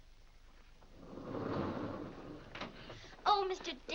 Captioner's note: doors slide open